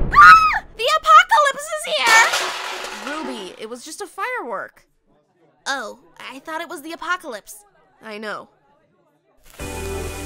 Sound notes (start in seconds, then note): 0.0 screams; 1.9 dishes crash